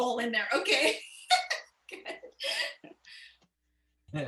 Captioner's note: laughter